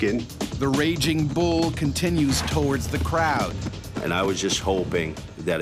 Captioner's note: voiceover